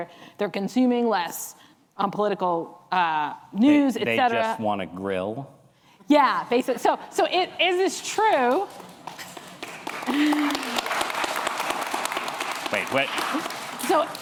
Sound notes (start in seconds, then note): 8.4 applause